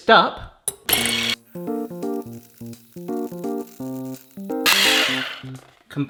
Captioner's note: mixer clanging; upbeat music; mixer whirring